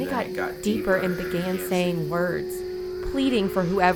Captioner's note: voice becomes female with accent